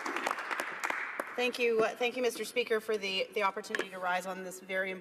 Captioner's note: applause